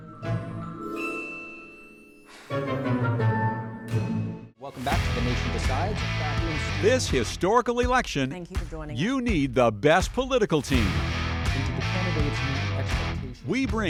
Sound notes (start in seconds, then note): 2.1 sighs